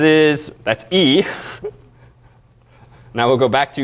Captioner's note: laugh